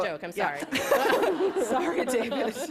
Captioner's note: laughter